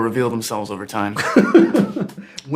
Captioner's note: laughs